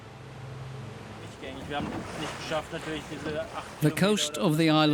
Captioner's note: speaking in German